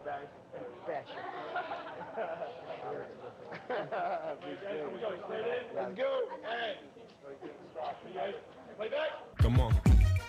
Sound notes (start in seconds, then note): 3.2 laughter; 9.3 rap music starts